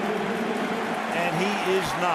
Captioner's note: pa announcement